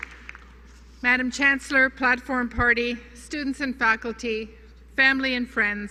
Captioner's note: applause